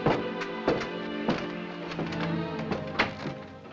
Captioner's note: footsteps